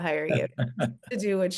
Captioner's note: laughing